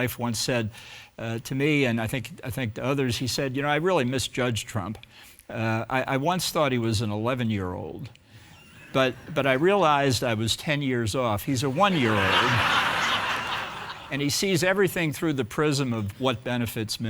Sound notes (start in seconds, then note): 11.7 audience laughing